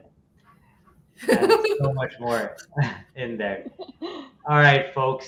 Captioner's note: laughing